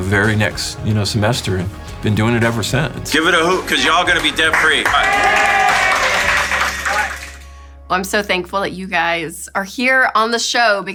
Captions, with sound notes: the very next semester, been doing it ever since. - Give it a hoot, 'cause y'all gonna be debt free. (clapping and cheering) - Well, I'm so thankful that you guys are here on the show